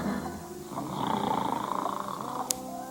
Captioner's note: snoring